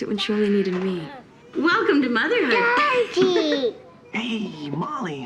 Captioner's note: laughing